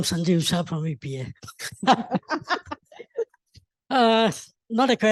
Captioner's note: laughter